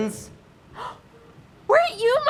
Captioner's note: gasps